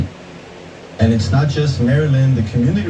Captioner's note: on TV